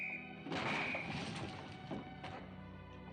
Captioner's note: objects Thumping; whistle Blowing